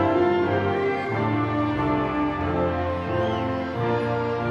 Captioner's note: audience cheering